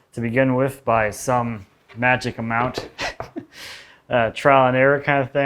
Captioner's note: laughs